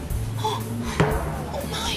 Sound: Aida gasps

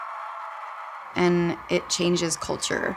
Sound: crowd cheering

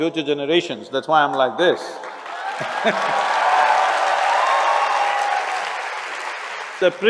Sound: laughs; cheers/Applause

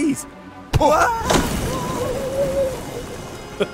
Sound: cries; Airrack laughs

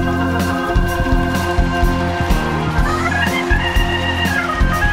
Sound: crowd cheering

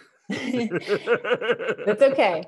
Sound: laughing

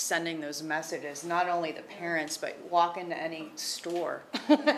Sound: laughs

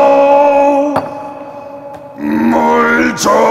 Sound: holding back his tears

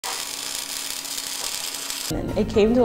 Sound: welder crackling

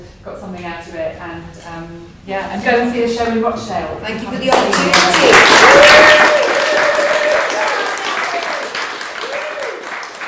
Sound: clapping

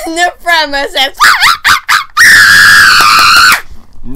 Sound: maniacal laughter and clapping

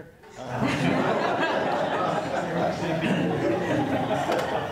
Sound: everyone laughs

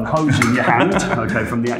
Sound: chuckles

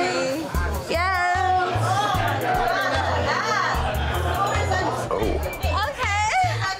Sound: overlapping bar chatter

